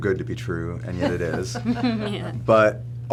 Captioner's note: laughing